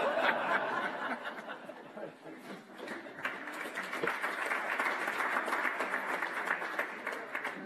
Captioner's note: laughter and applause